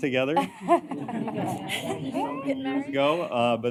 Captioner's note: laughter